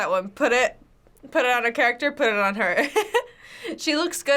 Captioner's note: chuckles